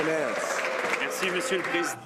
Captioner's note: some Applause